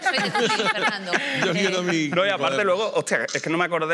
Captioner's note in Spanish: algunos ríen